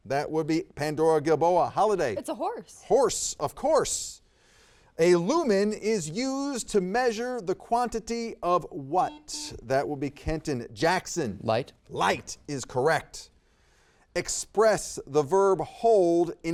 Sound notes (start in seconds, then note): 9.0 buzzer beeps